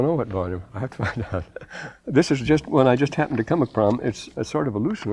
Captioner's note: laughter